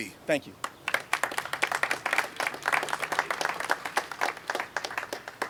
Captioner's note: audience applauding